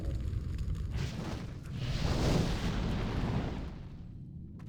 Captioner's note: explosion